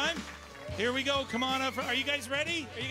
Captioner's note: cheering and Applause